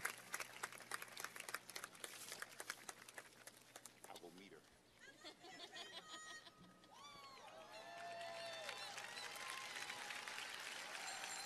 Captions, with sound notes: I'll go meet her. (laughing) (cheers and applause)